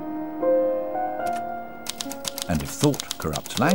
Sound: tapping of typewriter keys

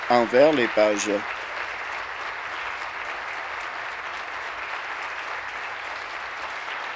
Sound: applause

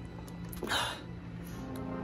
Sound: heavy breath

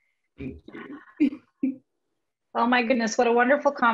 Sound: laughing

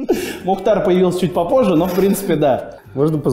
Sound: voice-over

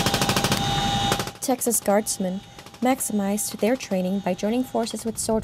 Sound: gunfire

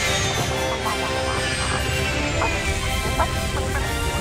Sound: chicken clucks

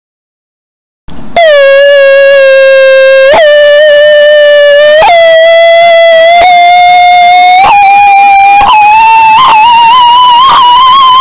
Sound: eerie sound

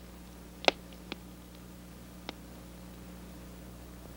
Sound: fire crackling

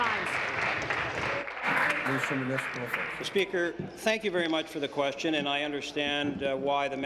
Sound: applause

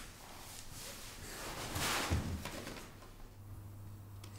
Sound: none

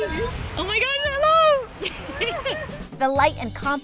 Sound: laughs

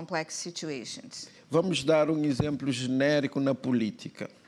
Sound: speaking portuguese

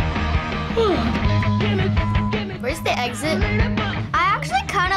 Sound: yawns

